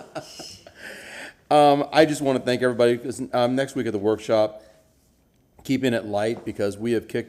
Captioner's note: laughter